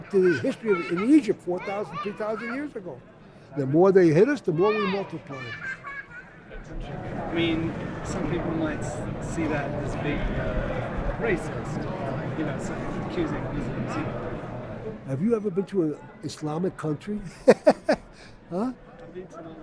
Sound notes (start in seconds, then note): 5.4 voiceover; 17.3 laughs; 18.3 voiceover